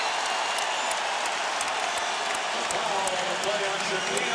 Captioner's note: cheering